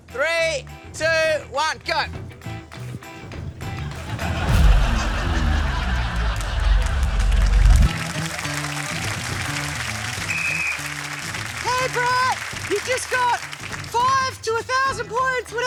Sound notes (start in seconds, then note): 3.7 laughter; 7.2 applause; 8.4 blows whistle